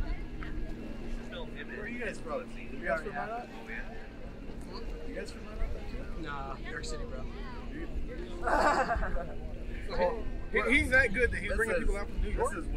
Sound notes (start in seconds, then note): 8.4 laughter